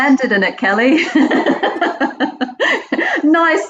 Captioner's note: laughs loudly